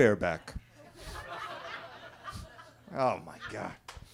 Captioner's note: attendees laughing